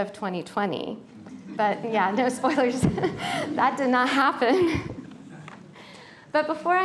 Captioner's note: laughter